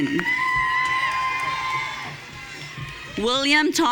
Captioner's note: audience cheering